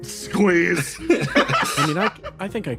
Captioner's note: laughs